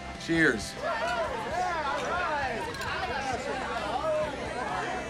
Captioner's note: cheering